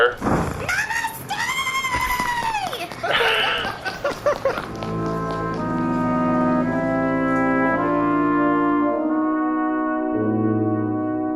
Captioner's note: screaming and running; laughs